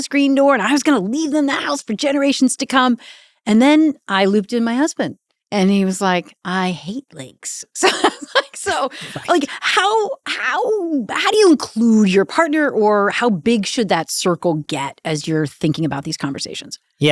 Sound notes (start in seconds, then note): 7.8 laughs